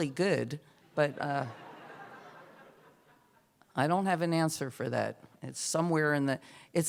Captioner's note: laughter